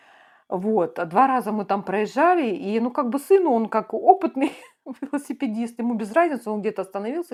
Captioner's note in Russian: смех